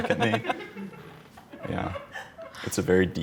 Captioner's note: laughing